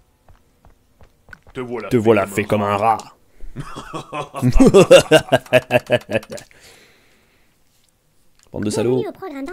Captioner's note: laugh